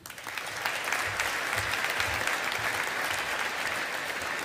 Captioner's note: audience applauding